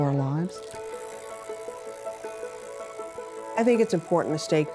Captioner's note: pottery wheel